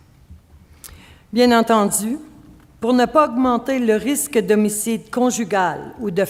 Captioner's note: speaking French